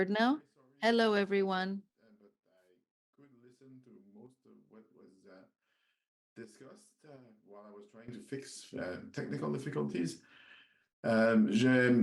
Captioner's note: speaking French